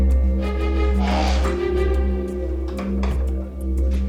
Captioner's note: door creaks